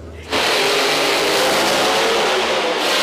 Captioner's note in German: Motorenheulen